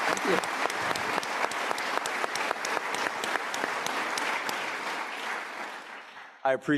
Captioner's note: audience applauding